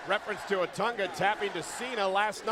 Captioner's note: crowd cheering